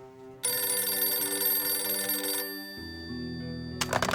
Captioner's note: phone ringing; somber music